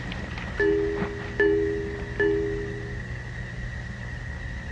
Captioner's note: computer chiming